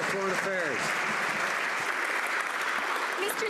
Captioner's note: some Applause